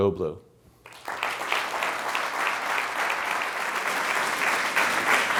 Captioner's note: crowd applauds